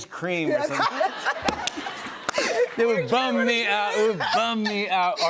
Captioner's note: laughter